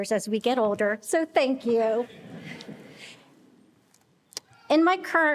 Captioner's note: attendees laughing